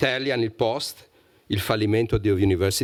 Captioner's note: speaking italian